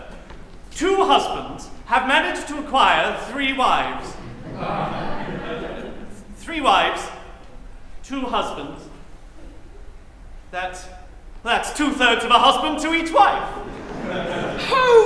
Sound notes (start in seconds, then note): 4.0 laughter